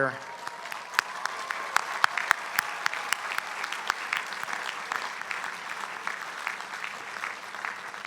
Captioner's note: applause